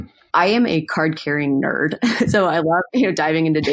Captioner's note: laughs